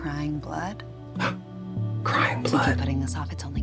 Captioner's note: gasps